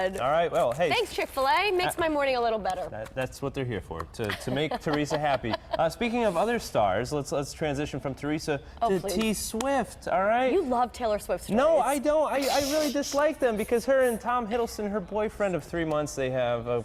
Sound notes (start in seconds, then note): 4.2 laughter